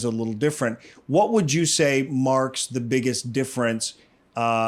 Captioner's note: inhales